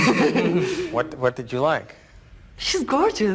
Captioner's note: laugh